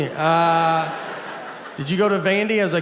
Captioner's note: audience laughs